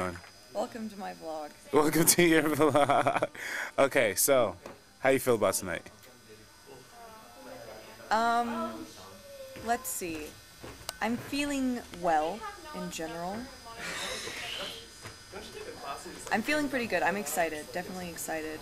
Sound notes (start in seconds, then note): 1.9 laughing